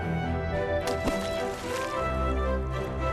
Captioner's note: splash, sizzle